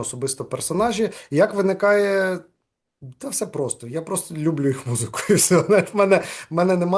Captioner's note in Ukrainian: сміється